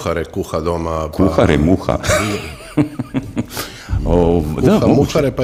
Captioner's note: laughter